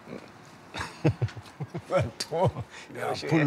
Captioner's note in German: lacht